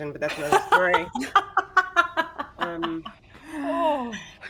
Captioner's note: laughs